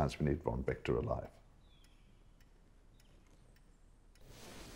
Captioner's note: clock ticking